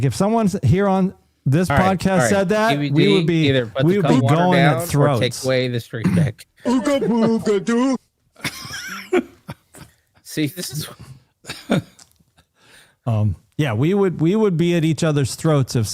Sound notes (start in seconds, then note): 6.5 laughter